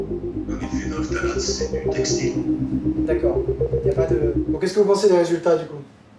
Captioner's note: speaking in foreign language